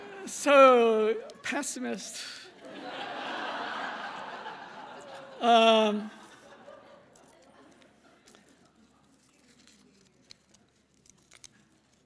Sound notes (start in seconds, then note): 2.5 laughing